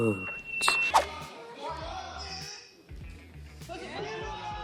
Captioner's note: crowd cheers